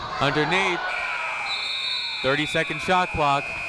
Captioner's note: buzzer